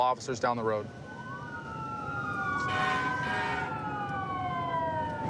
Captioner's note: emt sirens blaring